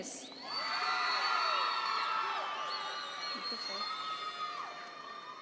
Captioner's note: audience members cheer